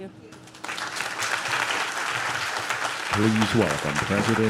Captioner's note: audience claps